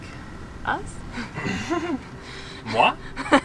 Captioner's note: chuckles